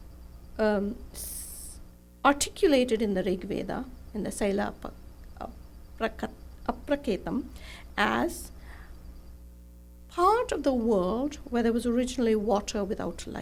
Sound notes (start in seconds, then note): 5.9 non-english speech